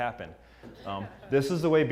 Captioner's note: laugh